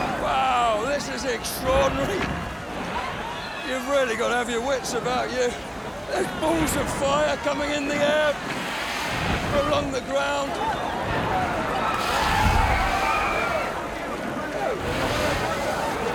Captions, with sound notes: Wow, this is extraordinary. You've really gotta have your wits about you. There's balls of fire coming in the air, going along the ground. (crowd cheers and screams)